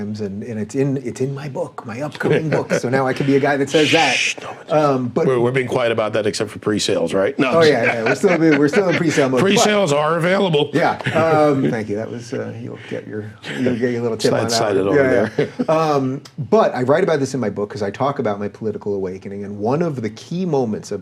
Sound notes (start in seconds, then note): 2.1 chuckling; 7.4 laughing